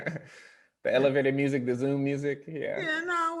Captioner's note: laughing